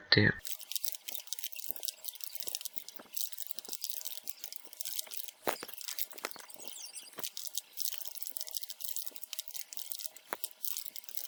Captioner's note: typing